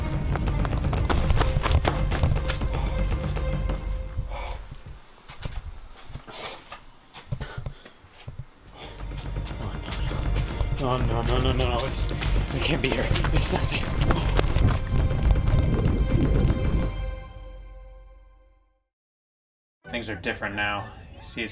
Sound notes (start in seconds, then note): 0.0 footsteps running; 3.9 heavy breathing